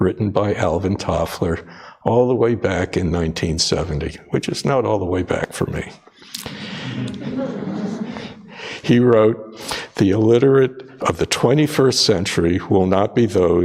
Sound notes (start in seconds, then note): 6.5 audience laughs